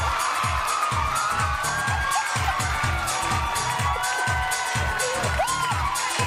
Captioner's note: audience cheering and applauding; bass-heavy music